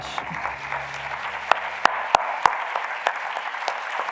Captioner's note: audience clapping